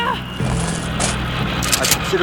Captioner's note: shotgun Click